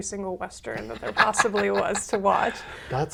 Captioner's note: laughs